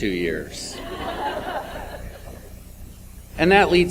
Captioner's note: audience laughs